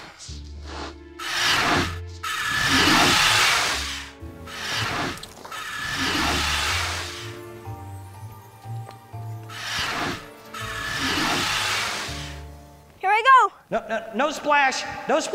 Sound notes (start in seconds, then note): 2.2 dinosaur shrieking